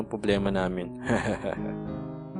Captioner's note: chuckles